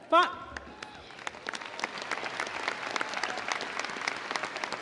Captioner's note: audience applauding